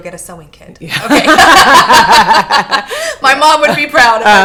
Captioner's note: laughing